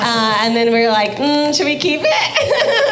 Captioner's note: laughing